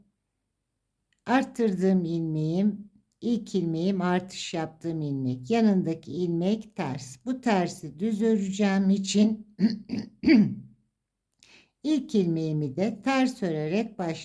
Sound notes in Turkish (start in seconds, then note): 9.6 boğazını temizler; 9.6 öksürme